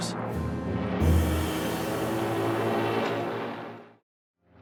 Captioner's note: jet engines roaring